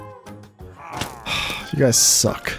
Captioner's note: sigh